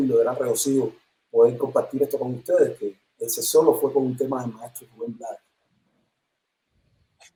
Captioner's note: sonido entrecortado